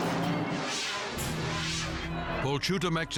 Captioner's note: air whooshes